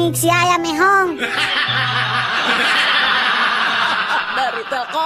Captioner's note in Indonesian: tertawa